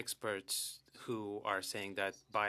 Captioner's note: speaking French